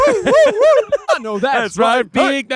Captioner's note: whooping; scatting